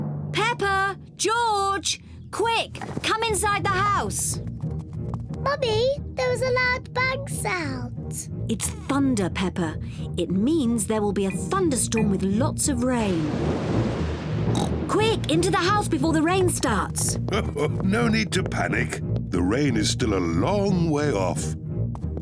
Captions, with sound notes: Peppa! George! Quick, come inside the house! Mummy, there was a loud bang sound. It's thunder, Peppa. It means there will be a thunderstorm -with lots of rain. -(THUNDER RUMBLES) (OINKS) Quick, into the house before the rain starts! (CHUCKLES) No need to panic. The rain is still a long way off.